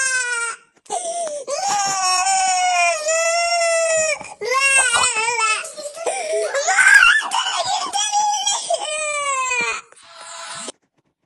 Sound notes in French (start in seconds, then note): 0.9 L'enfant sanglote